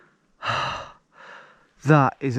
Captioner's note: sighing